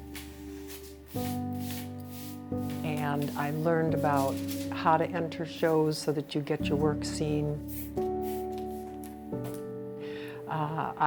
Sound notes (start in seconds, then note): 0.0 cloth rustling; 7.7 spray spritzing